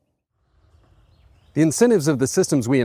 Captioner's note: footsteps on gravel. Wind in trees. Birds chirping in the distance